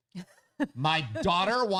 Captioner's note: laughs